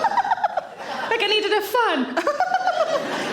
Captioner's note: giggling